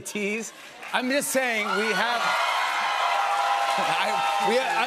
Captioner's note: cheers and applause